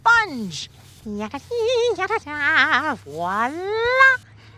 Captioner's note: humming